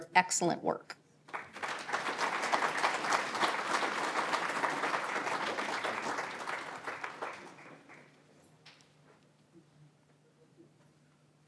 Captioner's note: applause